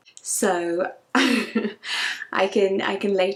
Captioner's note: laughs